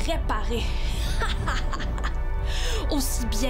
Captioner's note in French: rire maléfique